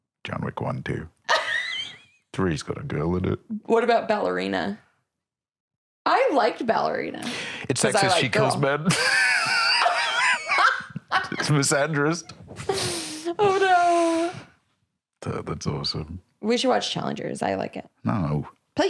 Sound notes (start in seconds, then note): 1.3 laughs; 8.8 laughs